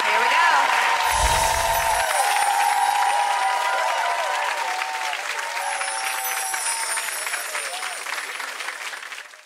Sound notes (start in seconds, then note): 0.0 applauds; 1.1 twinkling